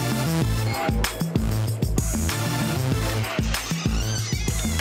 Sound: hip hop music; doorbell rings

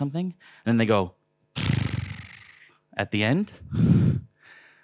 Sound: tongue fluttering

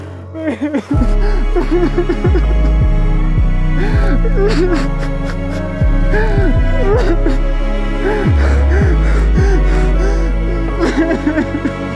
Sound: cries and gasps for air

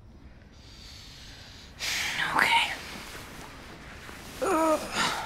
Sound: exhales

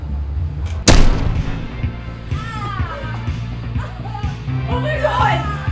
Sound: crying

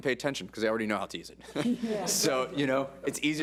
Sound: board laughs

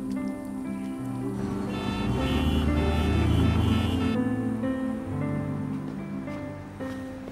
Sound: sentimental music; cars honking

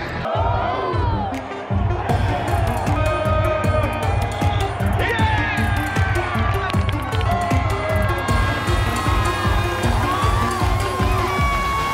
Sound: crowd cheering

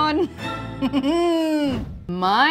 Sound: chuckles

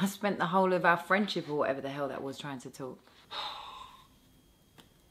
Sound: theo sighs

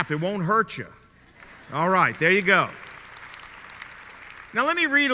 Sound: clapping

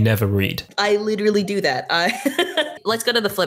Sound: laughs

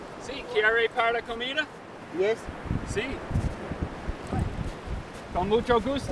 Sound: speaking foreign language

